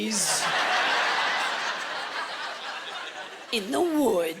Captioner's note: laughter